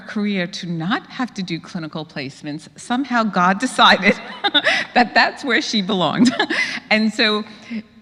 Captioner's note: laugh